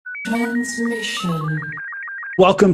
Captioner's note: voiceover